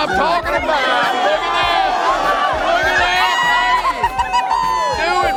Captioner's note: crowd cheering